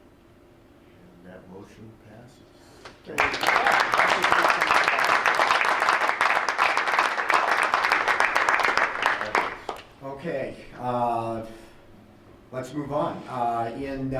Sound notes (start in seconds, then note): 3.0 crowd applauds